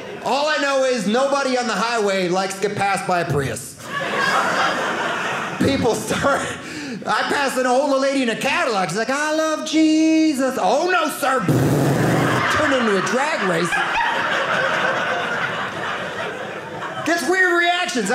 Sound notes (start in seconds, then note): 3.8 audience laughing; 14.5 audience laughing